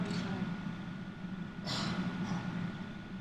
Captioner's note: coughing offstage